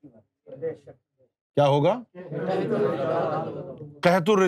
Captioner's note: audience repeats